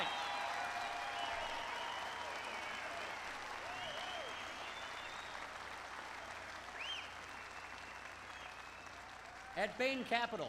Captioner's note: applause